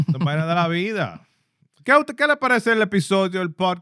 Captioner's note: speaking Spanish